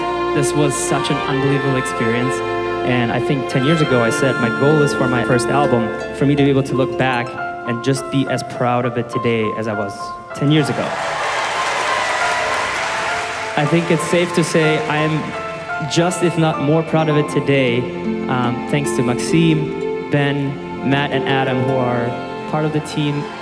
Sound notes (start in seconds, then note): 10.6 cheering; 22.6 cheering